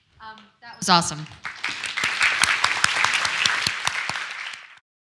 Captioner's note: audience applause